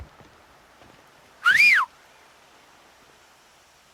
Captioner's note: whistles